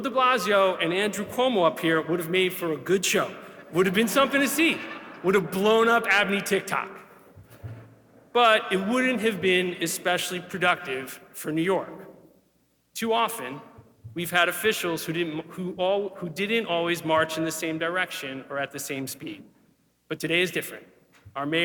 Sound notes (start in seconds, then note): 3.4 audience laughing